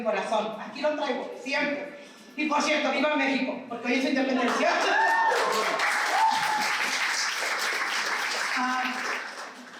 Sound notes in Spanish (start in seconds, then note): 4.4 aplauso